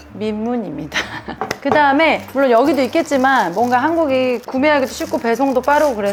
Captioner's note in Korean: 웃음